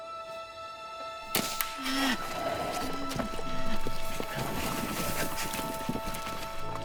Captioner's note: dart gun shot; rhino grunts